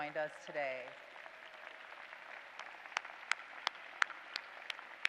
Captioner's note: applause